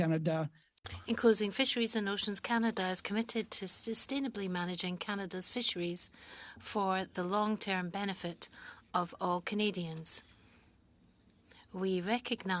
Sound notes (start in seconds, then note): 3.7 speaking French